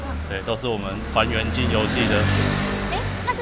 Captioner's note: brrrrrrrm